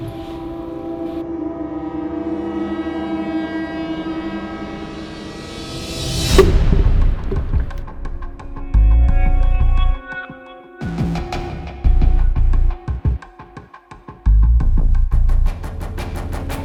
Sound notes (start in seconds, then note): 0.1 intense music; 6.3 thud; 8.4 intense music